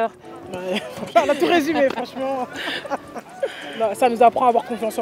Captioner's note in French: Rires